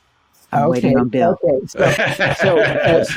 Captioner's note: laughs